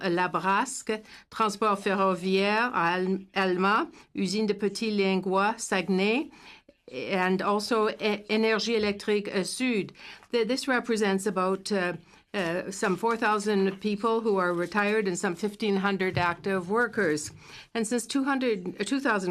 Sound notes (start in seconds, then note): 0.3 speaking in french; 3.9 speaking in french